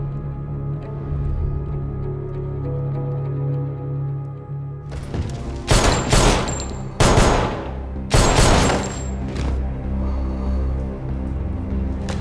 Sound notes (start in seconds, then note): 0.8 dramatic music; 5.7 gun whirs